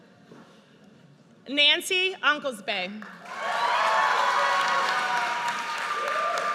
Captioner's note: audience cheers